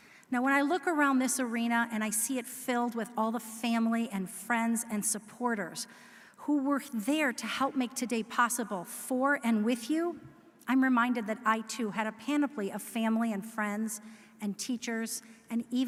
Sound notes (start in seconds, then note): none